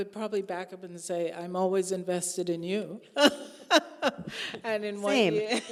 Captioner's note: laughing